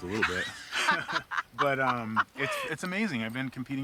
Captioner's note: both laugh